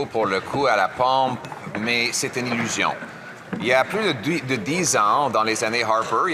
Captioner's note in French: voix de l'interprète